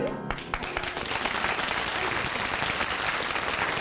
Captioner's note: applause